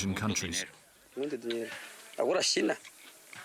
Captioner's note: Portuguese spoken audio